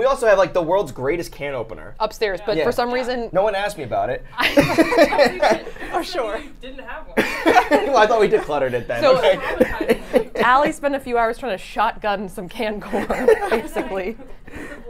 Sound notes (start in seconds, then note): 4.4 both laugh; 7.2 laughs